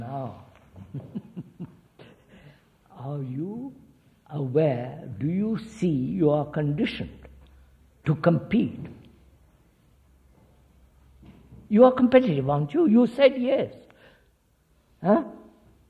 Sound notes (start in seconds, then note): 0.7 laughs